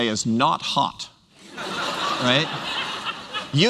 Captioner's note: laughter